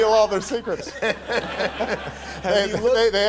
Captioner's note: audience laughter